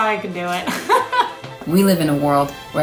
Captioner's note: laughs